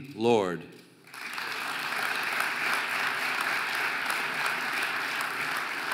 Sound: audience applauding

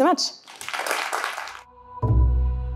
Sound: applause

